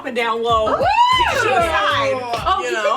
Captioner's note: whooping